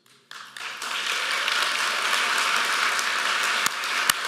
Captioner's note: applause